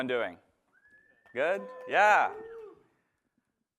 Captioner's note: cheering